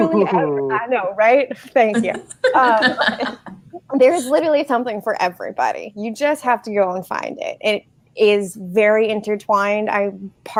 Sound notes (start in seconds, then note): 1.9 laughing